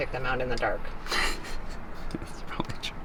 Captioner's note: laughing